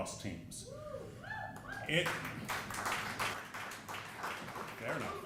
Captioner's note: audience cheering